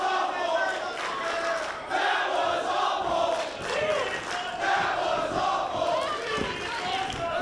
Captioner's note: applause